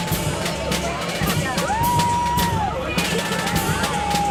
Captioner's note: whooping